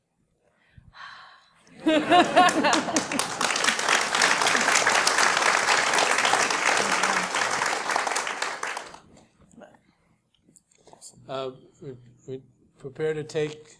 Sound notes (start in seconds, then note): 0.2 laugh; 2.0 applause